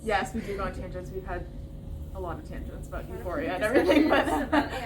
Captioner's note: laughter